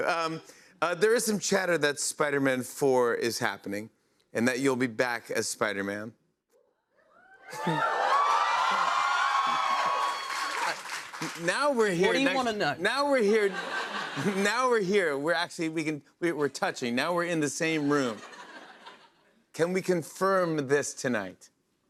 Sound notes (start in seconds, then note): 7.1 cheers and applause; 13.4 laughter